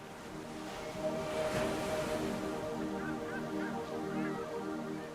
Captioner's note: seagulls mewing